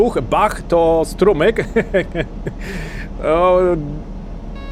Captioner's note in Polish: śmiech